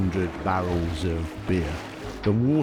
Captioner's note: beer gushing